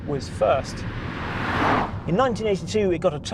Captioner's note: car roaring